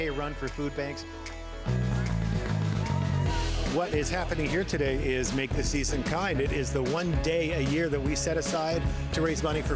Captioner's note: cheering